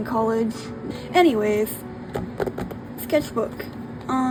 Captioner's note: tappity tap tap